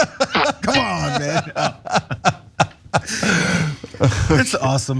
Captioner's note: laugh